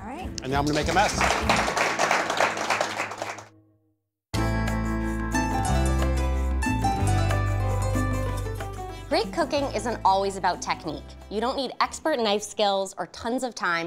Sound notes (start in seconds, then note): 0.4 applause